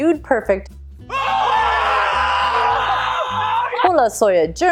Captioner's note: lots of screaming and hooting